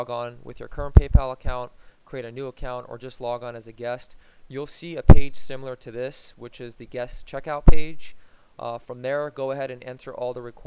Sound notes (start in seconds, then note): none